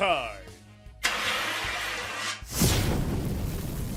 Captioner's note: fire Extinguisher Blast